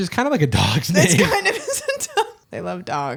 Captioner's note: laughing